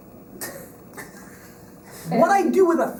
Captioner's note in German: Lachen